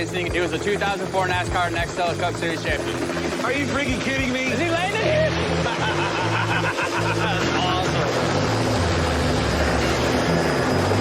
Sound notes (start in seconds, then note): 4.7 laughs